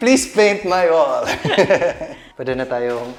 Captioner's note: laughs